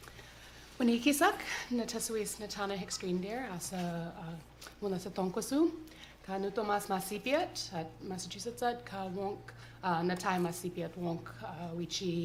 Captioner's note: non-english speech